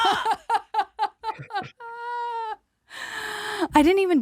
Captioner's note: laughs